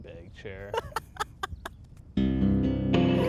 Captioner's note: Dom laughs; slow twanging guitar music